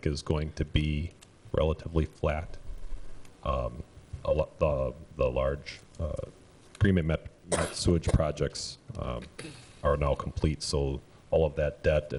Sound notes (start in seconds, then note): 7.5 sneezing